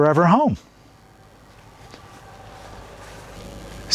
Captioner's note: water running